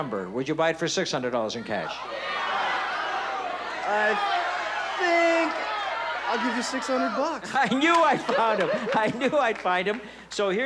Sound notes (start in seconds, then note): 2.5 audience chatter